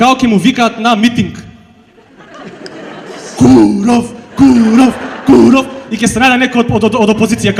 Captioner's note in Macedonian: смеа